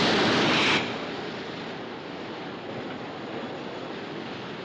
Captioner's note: rumbling continua